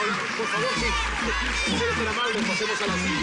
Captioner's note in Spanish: Continúan coreando